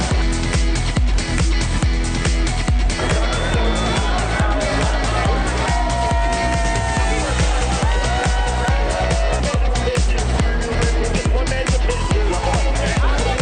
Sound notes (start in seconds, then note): 2.1 upbeat music; 6.4 crowd cheers; 10.0 crowd chatters